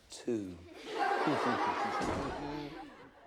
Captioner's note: all laughing; door opens